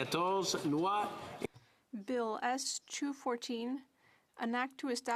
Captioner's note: speaking French